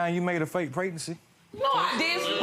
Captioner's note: crowd exclaims